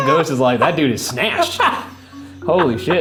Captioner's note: Shane laughs